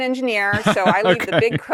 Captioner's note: laughs